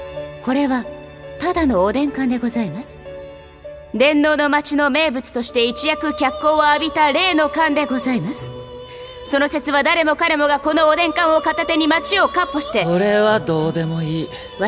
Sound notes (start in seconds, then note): none